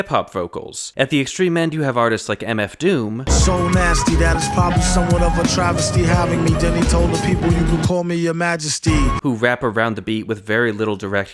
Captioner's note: bang